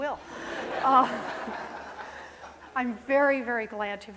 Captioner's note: audience laughing